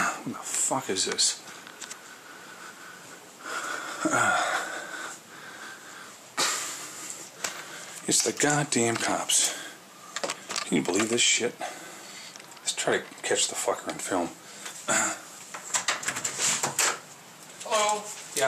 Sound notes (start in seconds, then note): 3.5 sighs; 14.9 clears throat; 15.6 door opens